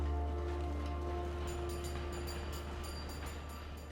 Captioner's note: trolley clanging